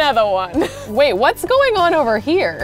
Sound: laughs

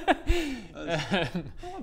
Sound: awkward laugh

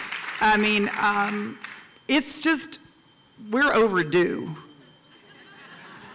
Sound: applause

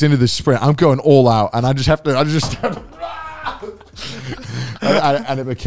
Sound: screaming

